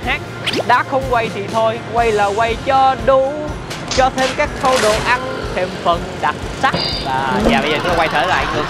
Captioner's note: keeps on chattering & singing nonsense